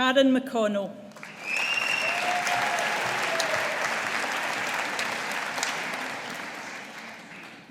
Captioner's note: audience applauding